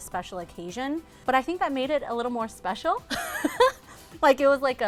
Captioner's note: laughs